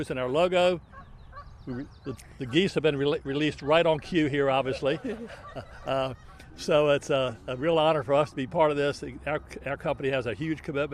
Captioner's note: geese honking